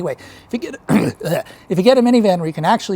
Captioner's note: gross mouth noise